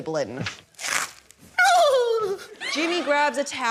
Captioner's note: crunch!; wails